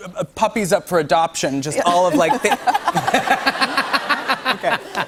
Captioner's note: laughter